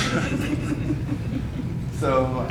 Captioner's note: laughter